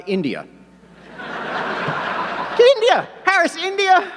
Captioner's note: audience laughing